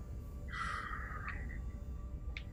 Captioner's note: sighs